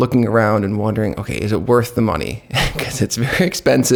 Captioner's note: laughs